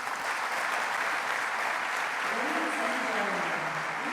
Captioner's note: audience applauding